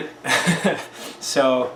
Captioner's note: laughing